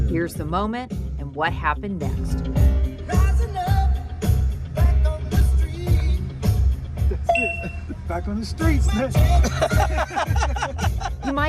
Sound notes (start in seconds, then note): 7.3 bell rings; 9.2 all laugh